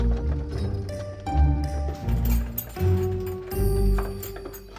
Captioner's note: keys jingling